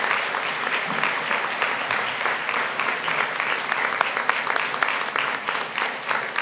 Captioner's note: applause